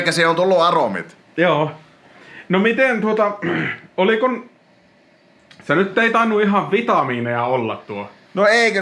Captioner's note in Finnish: rykäisee